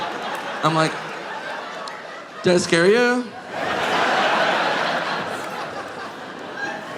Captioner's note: audience laughing